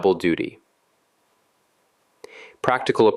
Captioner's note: pause